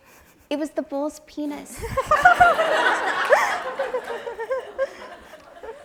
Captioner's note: audience laughs